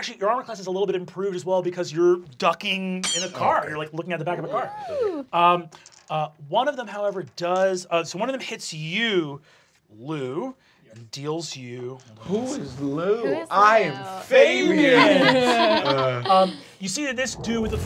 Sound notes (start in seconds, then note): 14.8 laughing